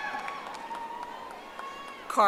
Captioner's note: audience applauding